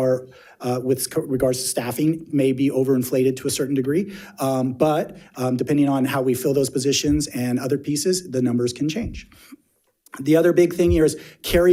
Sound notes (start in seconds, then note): none